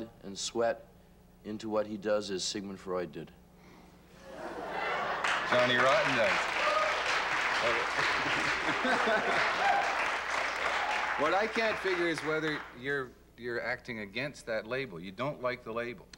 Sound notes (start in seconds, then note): 5.6 cheering and applause; 10.1 applause and laughter